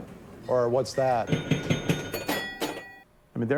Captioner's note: pinball dings